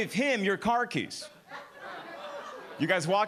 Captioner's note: audience laughing